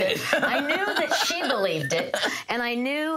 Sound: laughs

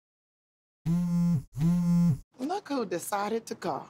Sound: cell phone buzzes

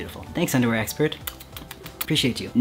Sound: blowing kisses

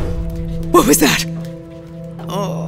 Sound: door clanks

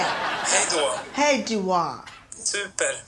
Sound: speaks Swedish; speaking Swedish; speaks Swedish

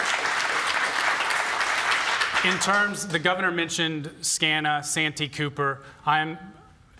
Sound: applause

